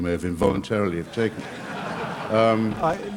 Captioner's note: laughter